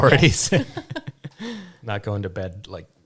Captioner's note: all laughing